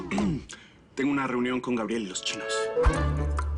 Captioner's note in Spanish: Carraspea